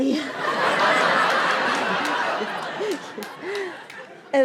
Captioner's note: laughs